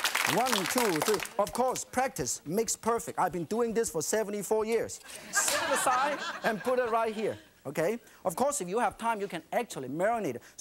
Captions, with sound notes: One, two, three. Of course, practice makes perfect. I've been doing this for 74 years. (laughing) Set aside and put it right here, okay? Of course, if you have time, you can actually marinate it.